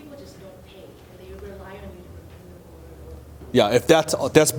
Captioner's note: voice trailing off